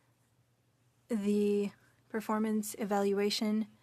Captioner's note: speaking French